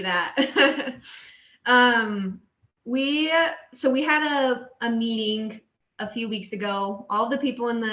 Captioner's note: laughter